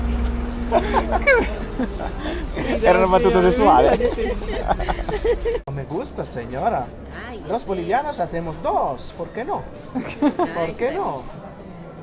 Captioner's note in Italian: risate